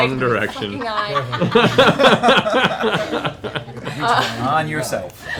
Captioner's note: laughter